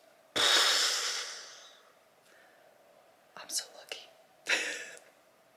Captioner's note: exhales